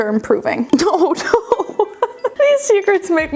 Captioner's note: laughing